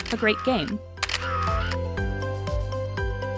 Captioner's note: camera click!